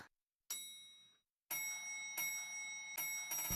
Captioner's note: elevator bell dinging